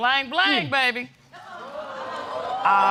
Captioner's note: audience exclaiming